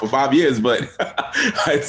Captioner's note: chuckles